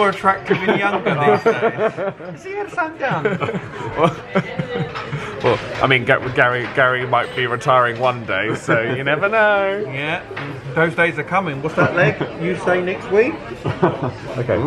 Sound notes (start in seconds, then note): 4.3 laughs quickly